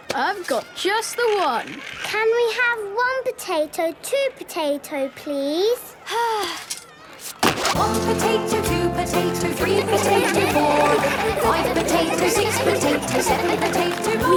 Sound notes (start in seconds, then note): 6.1 Belinda sighing; 9.6 laughter